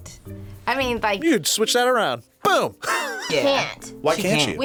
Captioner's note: laughs